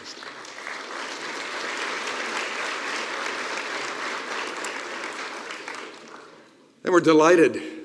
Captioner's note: applause